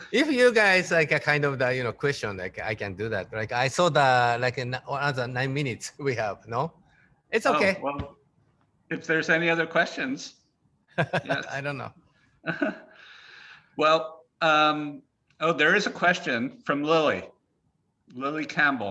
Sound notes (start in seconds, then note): 11.0 Takashi chuckling